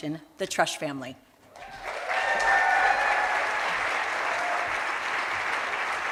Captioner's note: cheers and applause